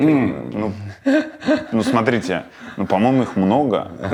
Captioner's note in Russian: смеется